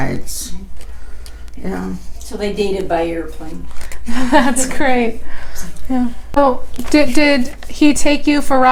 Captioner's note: whispers